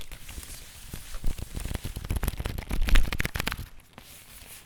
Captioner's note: paper shuffling